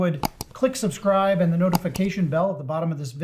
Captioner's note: mouse clicking